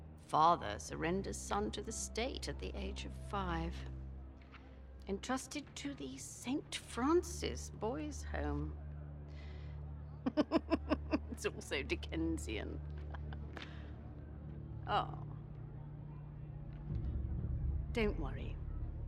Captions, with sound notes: ...father surrenders son to the state at the age of 5... ...entrusted to the ST. FRANCIS boys’ home. (laughs) It’s all so Dickensian. Aw... ...don’t worry...